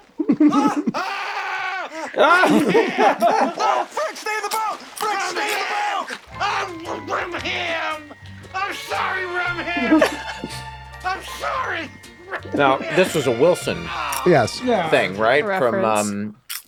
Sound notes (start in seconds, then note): 0.4 Mac exclaims softly; 0.5 Frank exclaims in dismay; 2.6 all laughing loudly